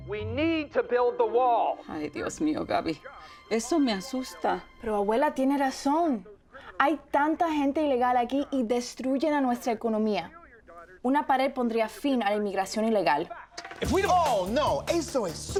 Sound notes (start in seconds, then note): 14.1 Adam speaking Spanish